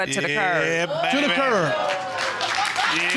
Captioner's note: audience cheering